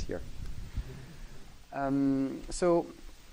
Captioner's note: laughing